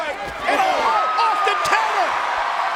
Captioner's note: crowd cheering